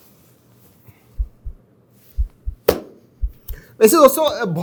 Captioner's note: heartbeats